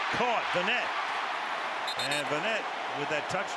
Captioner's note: cheering